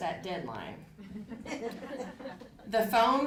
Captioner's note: audience laughing